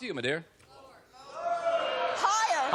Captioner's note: audience clamoring